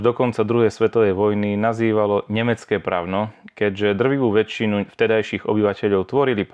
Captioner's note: German